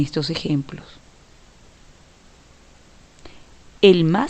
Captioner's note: no audio